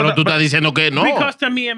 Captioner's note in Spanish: Hablando en idioma extranjero